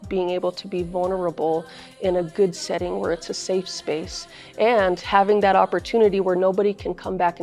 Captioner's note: speaking in foreign language